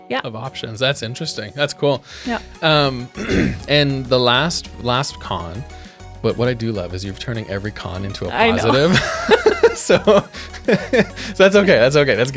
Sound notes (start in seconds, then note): 3.1 clears throat; 8.4 laughing; 8.4 laughs